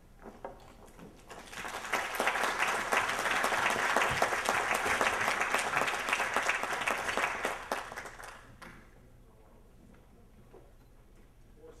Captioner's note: applause